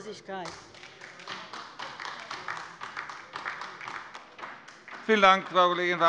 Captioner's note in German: Beifall bei der LINKEN